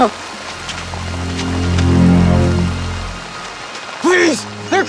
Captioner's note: rain splattering; suspensful music